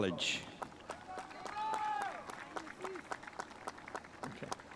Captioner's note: spectators applauding